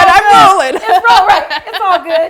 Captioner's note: laughing